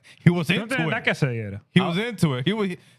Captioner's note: speaking Spanish